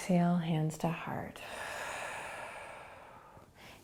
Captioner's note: exhaling